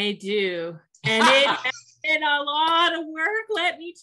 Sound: laughs

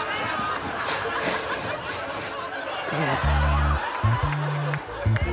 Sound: breathing heavily

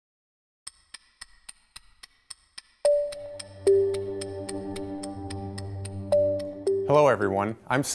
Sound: clock ticking

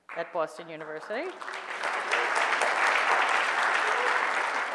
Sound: audience applause

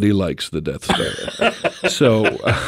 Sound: group laughs

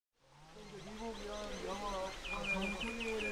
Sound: birds chirping

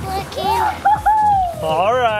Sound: shouting

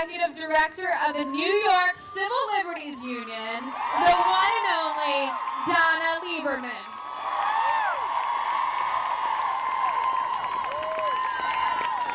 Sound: crowd cheers

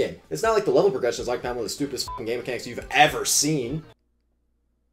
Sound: beep

